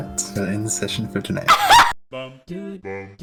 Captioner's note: bursts out laughing